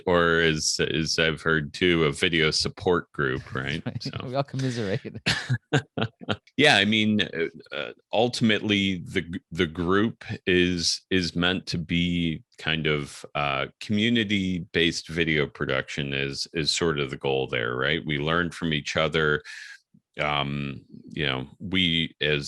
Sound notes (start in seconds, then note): 4.5 laughing